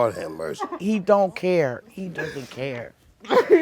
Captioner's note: crying